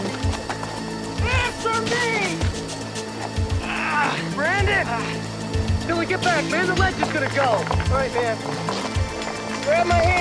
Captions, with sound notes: Answer me! -[straining] -Brandon! Dylan, get back, man. The ledge is gonna go. All right, man, grab my hand.